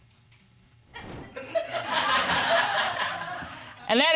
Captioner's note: laughter